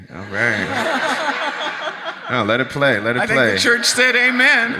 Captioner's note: audience laughs